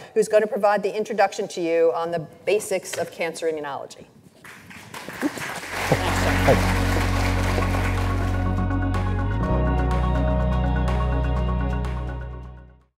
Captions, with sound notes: who's going to provide the introduction to you on the basics of cancer immunology. (audience applauds) (calm music)